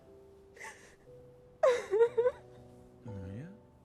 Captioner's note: Maria crying